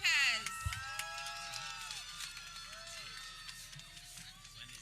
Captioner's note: people cheering